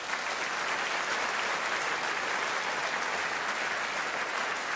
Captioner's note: audience applauding